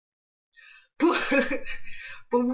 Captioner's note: laughs